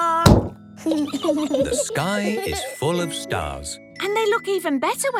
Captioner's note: giggling